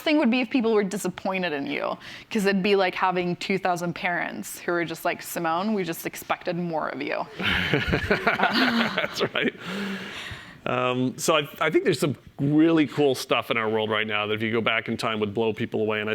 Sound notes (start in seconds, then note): 7.3 laughter